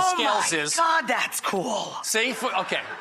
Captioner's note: laughter